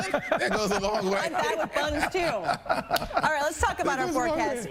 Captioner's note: laughter